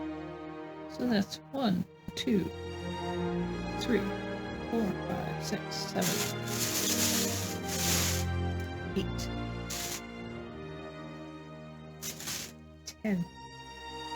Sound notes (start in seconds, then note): 5.9 plastic bag rustling